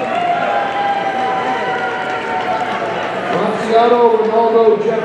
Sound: audience cheering

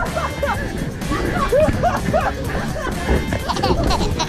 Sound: laugh hard

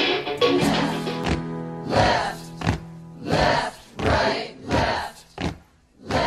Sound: guitar strum; group Chanting

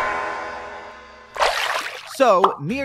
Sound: water splashing

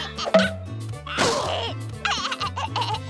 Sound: groaning; laughing

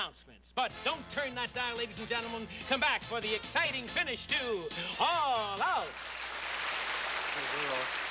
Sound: applause

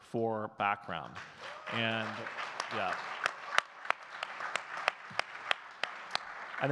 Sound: audience cheers and claps

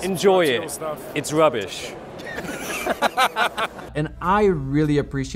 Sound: laughing

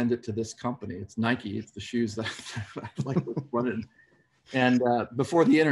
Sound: laughs

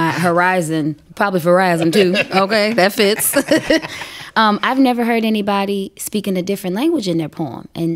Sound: laughter

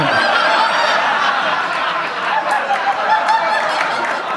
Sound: audience laughing

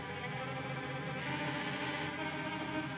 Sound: buzzing

